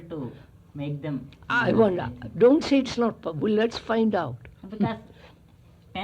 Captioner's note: laughs